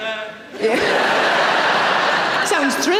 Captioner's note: audience laughing